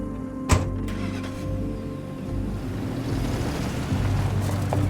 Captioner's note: truck starts